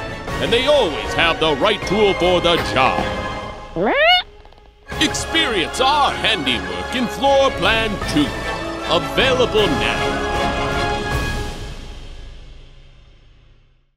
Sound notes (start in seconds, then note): 3.8 confused squeak noise